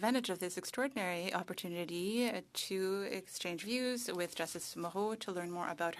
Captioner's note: speaking French